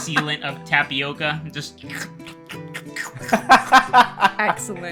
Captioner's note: laughter; slurps; laughter